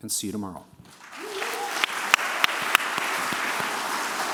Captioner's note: applause